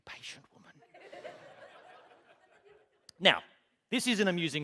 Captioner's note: laughter